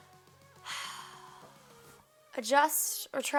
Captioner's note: sighs